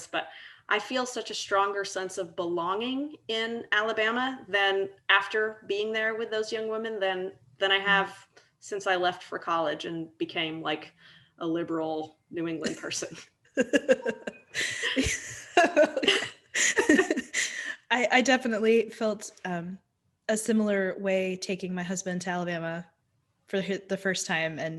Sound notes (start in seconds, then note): 13.6 laughing